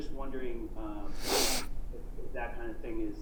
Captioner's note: sniffs